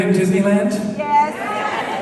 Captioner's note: crowd